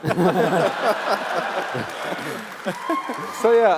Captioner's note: laughs